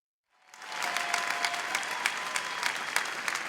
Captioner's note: applause